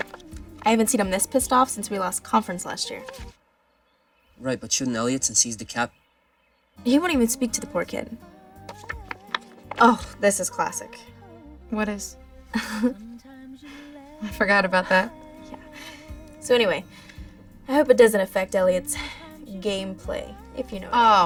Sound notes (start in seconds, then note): 12.6 both chuckle